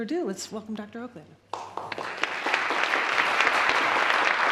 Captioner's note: applause